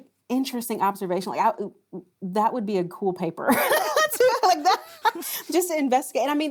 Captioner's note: laughing